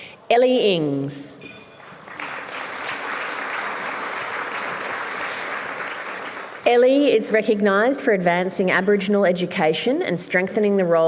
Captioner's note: applause